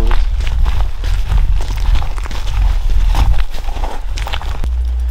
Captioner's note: footsteps fall